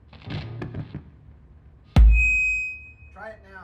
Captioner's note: mic feedback